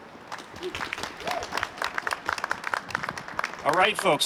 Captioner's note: applause